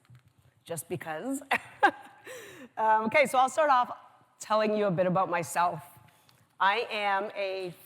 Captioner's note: laughs